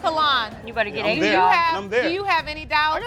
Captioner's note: crowd laughing